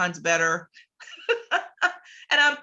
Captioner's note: laughs